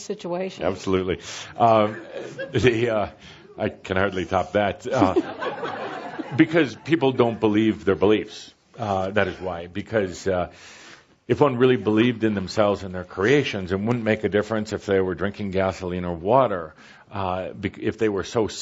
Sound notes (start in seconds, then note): 4.9 laughter